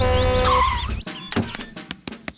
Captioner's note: honks and brakes